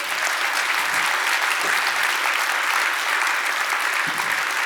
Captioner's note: applause